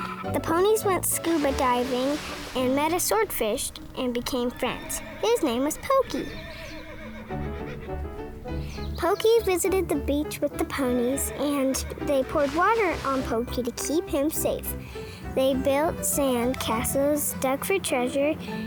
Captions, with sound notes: The ponies went scuba diving and met a swordfish and became friends. His name is Pokey (horse neighs) (light music) Pokey visited the beach with the ponies, and they poured water on Pokey to keep him safe. They built sand castles, dug for treasure